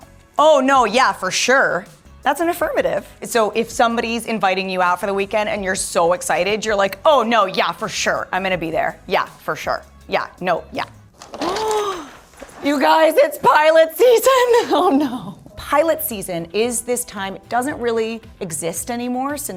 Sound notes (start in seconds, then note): 11.4 Troain gasps